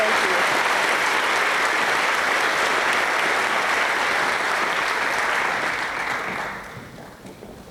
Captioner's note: applause